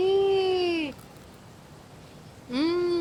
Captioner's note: Crunch